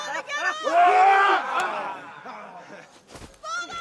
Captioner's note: all cheering